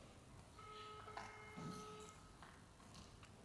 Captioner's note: phone tone